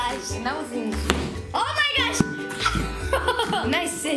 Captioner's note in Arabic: يضحك